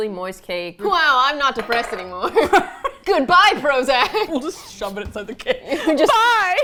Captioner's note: both laugh